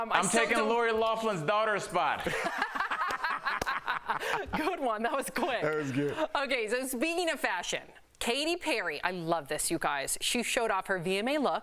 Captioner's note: laughter